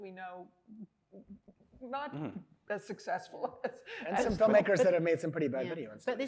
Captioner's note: chuckles